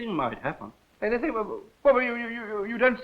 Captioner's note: stammering